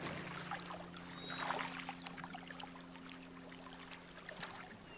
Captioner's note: bird chirping